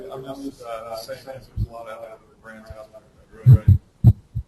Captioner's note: laughing; distorted speech